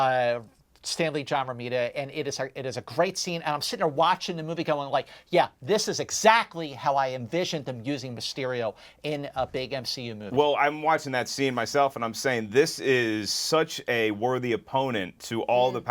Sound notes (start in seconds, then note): none